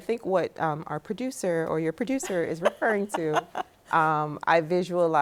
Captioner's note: laughs